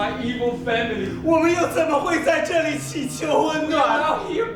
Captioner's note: speaking in a foreign language